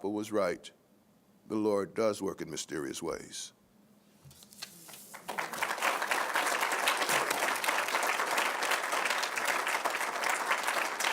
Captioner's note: applause